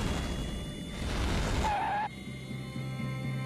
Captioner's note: skidding